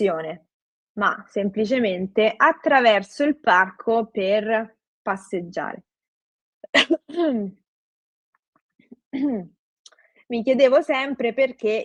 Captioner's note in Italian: schiarire la voce